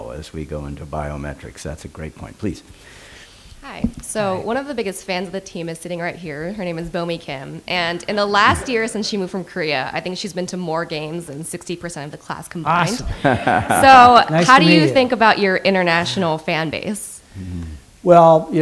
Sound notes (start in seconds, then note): 12.8 laughter